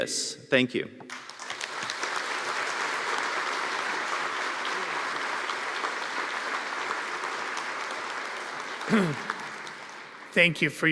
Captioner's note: applause